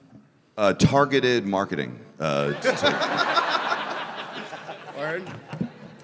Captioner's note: everyone laughing